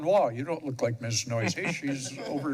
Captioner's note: laughs